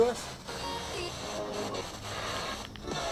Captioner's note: spirit box voice